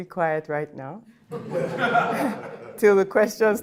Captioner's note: audience laughing